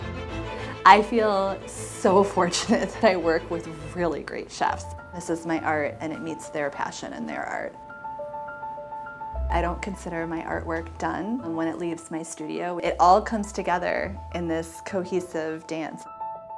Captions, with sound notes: I feel so fortunate (laughs) that I work with really great chefs. This is my art and it meets their passion and their art. (soft bright music) I don't consider my artwork done when it leaves my studio. It all comes together in this cohesive dance